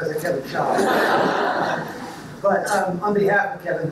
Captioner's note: audience laughs